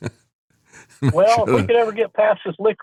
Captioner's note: laughs